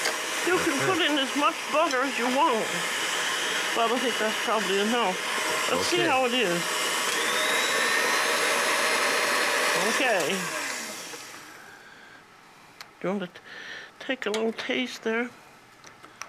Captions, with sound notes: You can put in as much butter as you want. I would think that's probably a no. Let's see how it is. (motor intensifies) Ok. Going to take a little taste there.